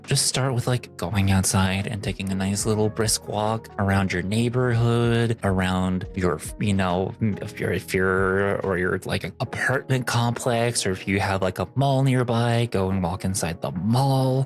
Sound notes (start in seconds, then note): none